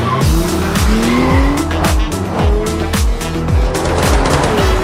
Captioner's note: wheels screeching; lively music continues